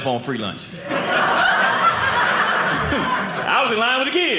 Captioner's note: audience laughing